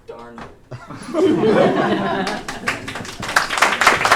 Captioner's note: audience laughing